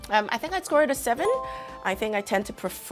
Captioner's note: bell dings